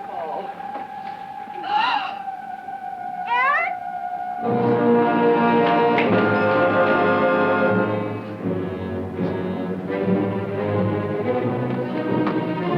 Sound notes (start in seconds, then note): 0.8 gasps; 4.5 intense music